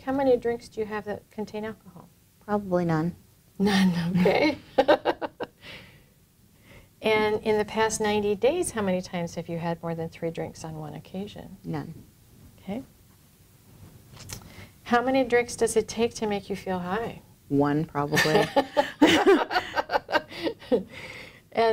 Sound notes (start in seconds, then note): 3.7 laughter; 18.1 laughter